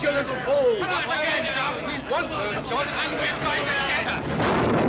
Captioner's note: angry clamoring; gun fires